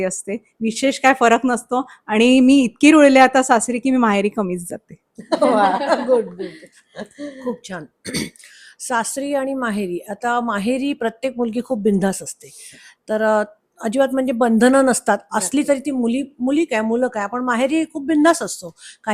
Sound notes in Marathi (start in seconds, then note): 5.2 हास्य